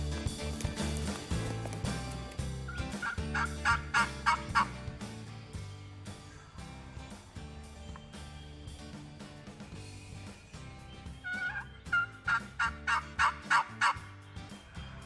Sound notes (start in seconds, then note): 2.7 turkey call yelps; 11.2 turkey call yelps